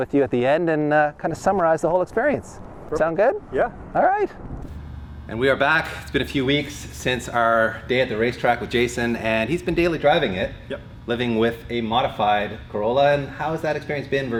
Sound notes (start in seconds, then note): none